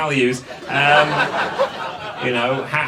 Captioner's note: audience laughs